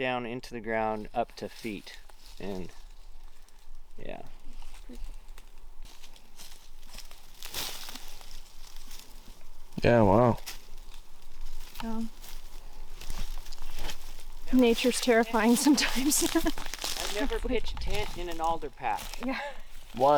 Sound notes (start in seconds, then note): 6.6 brush rustling; 15.7 chuckles